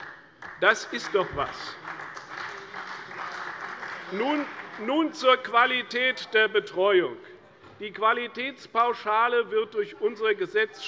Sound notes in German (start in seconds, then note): 1.6 Beifall bei der CDU und dem BÜNDNIS 90/DIE GRÜNEN